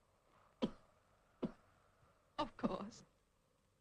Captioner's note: coughs